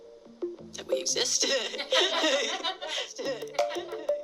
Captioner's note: laughing